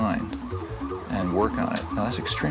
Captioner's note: sirens wailing